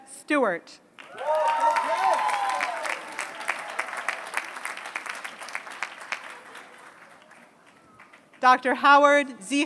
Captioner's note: applause